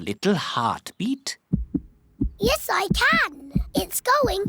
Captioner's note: heart thumps